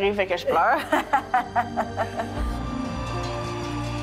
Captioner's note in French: rire